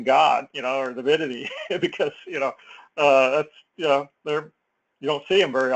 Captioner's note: laugh